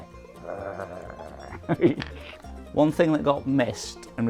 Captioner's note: growls